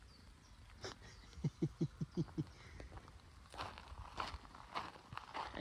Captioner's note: laughter